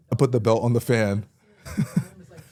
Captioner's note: laughs